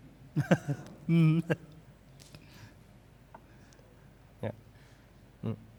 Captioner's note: laughs